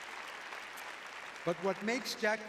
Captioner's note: applause